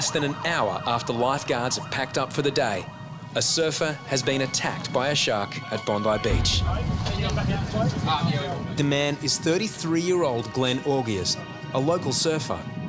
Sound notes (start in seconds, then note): none